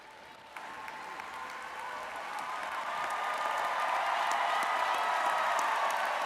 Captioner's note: audience cheering and applauding